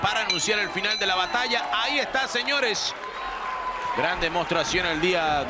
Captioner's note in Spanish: ovación